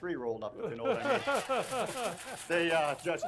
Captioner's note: everyone laughs